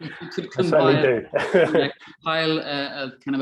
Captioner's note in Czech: Smích